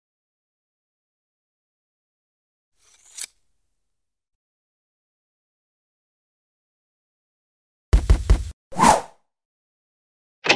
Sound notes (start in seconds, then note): 2.8 knife sound; 8.0 knock on door